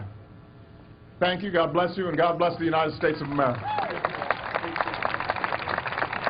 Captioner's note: applause